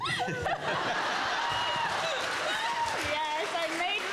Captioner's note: Mel snorts whilst laughing; everyone laughs and claps